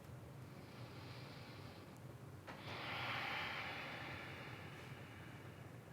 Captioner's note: inhales and exhales